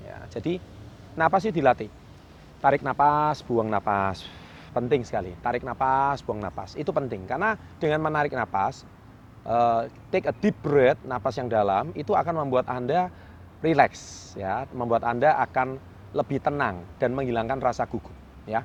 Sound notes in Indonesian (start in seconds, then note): 9.2 take a deep breath